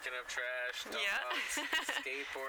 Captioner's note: laughs